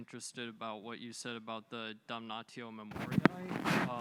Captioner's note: words in Latin